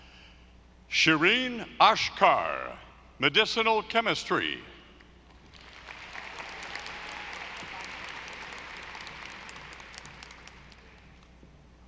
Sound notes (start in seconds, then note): 5.4 audience applauding